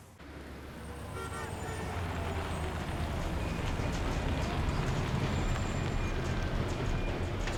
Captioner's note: traffic hums; car horns honking